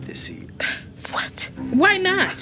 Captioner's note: scoffs